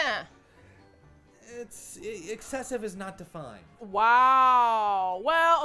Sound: indignantly

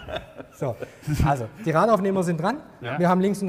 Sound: laughter

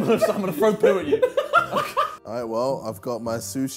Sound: laughing

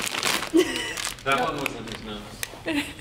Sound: laughing

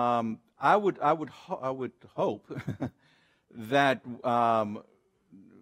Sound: laughs

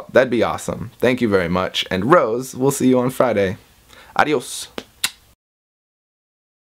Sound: kiss

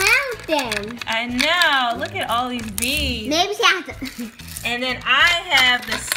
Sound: voiceover

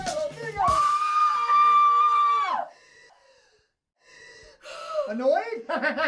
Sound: Maha screams; I Am screams

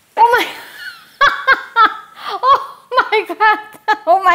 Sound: laughs

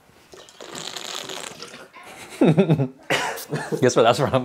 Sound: slurps water

